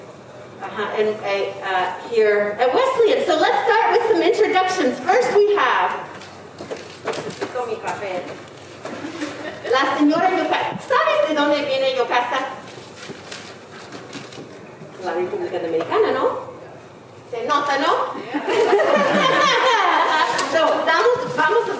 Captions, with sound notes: Here at Wesleyan. So let's start with some introductions. First we have. (speaking in foreign language) (audience laughing)